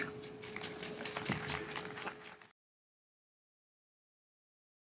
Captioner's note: audience applauds